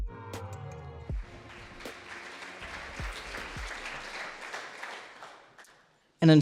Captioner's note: audience applauds